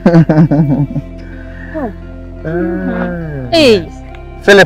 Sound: laughing

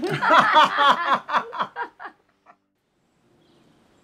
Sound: both laughing

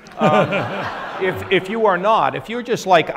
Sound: audience laughs

